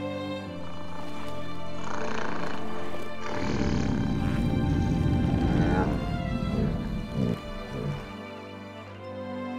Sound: deep growls

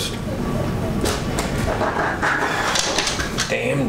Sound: offscreen dog scratches patio door

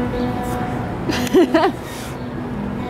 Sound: laughs

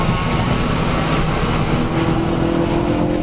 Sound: racecar noises

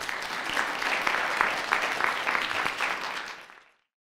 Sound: audience applauds

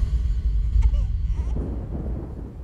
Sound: baby crying

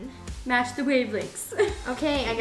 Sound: laughs

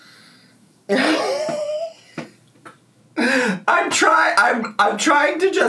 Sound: laughing

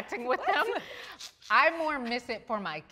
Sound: all laughing

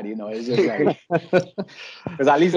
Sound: group laughter

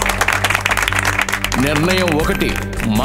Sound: claping

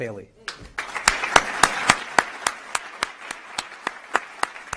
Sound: applause

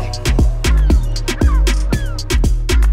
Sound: seagulls call

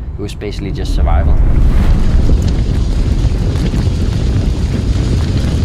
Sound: gusty wind blowing

